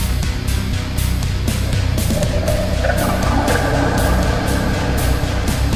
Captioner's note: engine revving